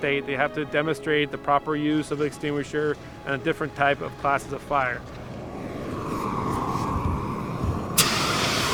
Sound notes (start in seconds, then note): 5.5 extingusher spraying a fire